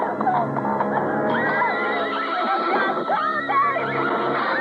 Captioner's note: screams